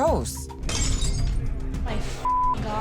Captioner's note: glass breaking